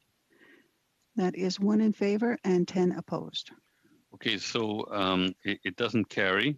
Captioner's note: speaking FRENCH